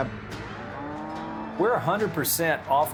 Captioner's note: cows mooing